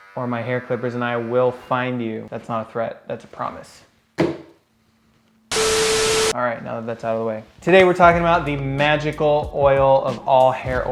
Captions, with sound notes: or my hair clippers and I will find you. That's not a threat. That's a promise. (static buzzes) All right, now that that's out of the way, today, we're talking about the magical oil